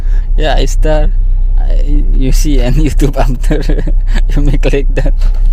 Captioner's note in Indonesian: tertawa